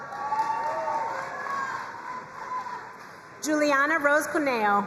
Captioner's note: crowd cheering and applauding